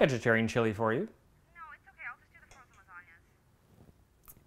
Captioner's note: Rose on the phone